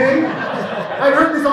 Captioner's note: laughter from audience